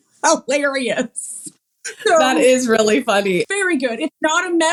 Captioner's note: laugh